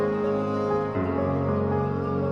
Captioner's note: none